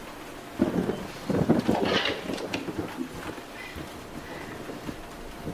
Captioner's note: thunder cracks